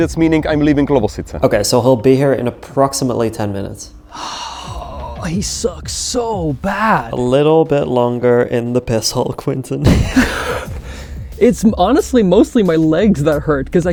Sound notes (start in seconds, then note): 4.0 sighs; 9.8 laughing